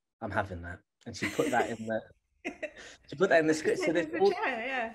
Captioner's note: laughter